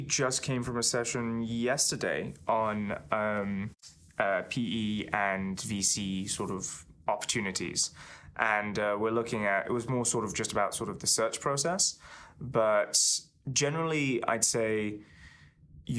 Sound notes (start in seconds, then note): none